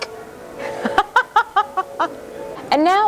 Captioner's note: laughs